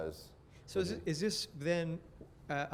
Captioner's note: voiceover